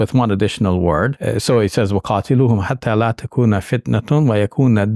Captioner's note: speaking in Arabic